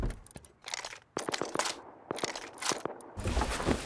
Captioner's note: gunfire